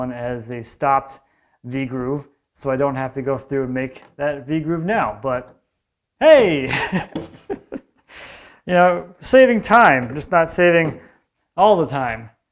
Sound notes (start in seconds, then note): 6.6 laughing